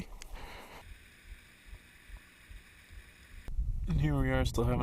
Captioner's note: sound of creek